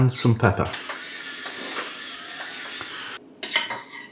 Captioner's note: crush crush crush